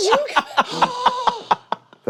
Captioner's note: laughing